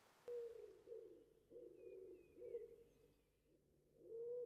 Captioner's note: owl hooting